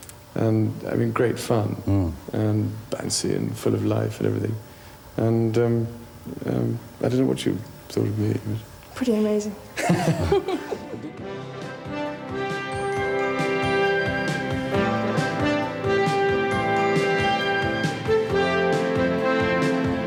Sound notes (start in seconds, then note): 9.7 laughter; 10.3 upbeat music